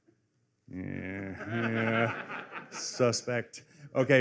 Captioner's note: laughter